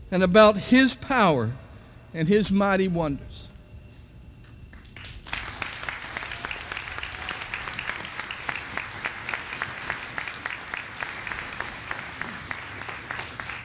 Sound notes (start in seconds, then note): 4.7 audience applauding